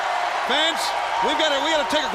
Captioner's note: crowd cheering